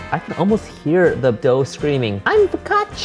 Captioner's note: none